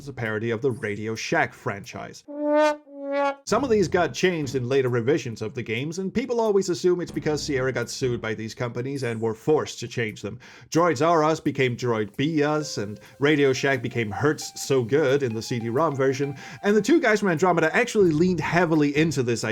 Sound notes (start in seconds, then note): 2.9 sad trombone